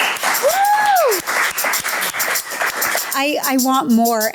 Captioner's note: clapping continues